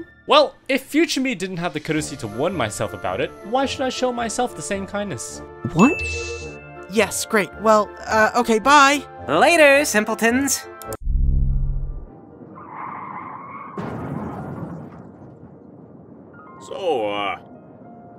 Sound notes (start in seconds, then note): 10.8 clicking